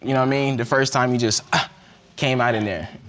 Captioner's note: grunts